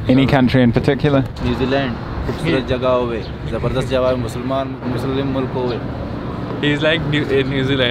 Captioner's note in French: Langue locale